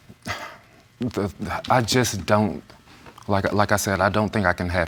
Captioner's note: stammering